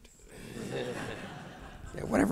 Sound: audience laughs; laughs

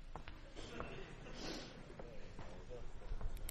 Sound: laughter

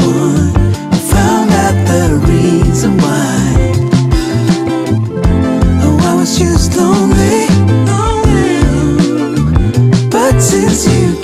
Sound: lonely ooh

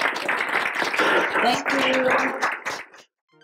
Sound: applause

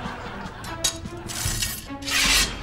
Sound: clanking

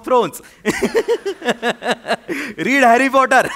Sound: laughter

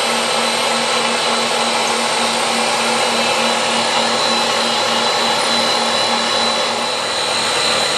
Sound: drill noise

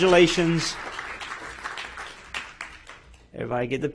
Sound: applause

